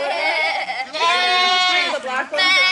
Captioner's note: LOTS of BAAAing; conversation fades